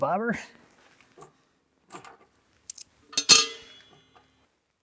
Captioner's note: screws clinking